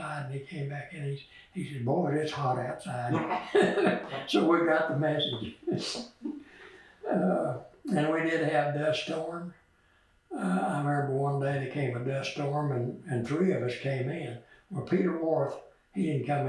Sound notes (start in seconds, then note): 7.0 laughs